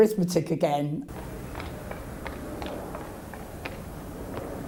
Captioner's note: hooves clopping